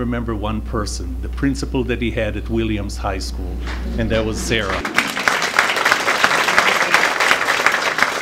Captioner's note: applause